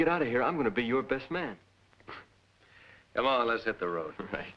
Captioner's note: chuckles